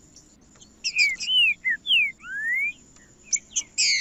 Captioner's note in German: trinca ferro cantando